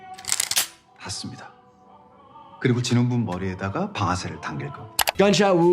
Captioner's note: gun cocks; recruiter speaking in Korean